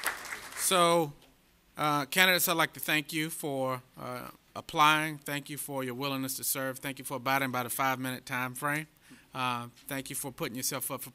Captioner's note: applause